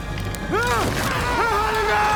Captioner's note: Harlander screaming